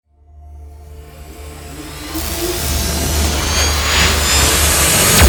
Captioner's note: celestial sound